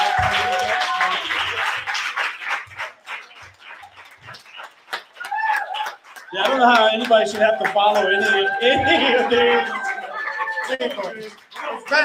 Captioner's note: applause